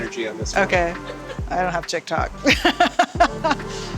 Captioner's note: laughing; crew member laughs